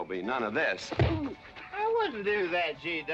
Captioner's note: thump